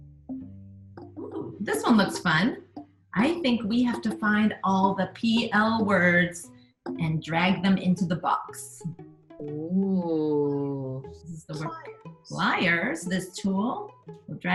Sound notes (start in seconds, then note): 0.6 items plonking